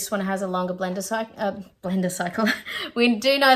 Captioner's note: laughing